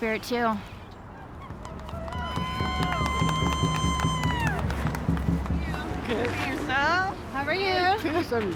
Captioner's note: cheering